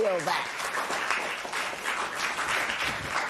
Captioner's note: applause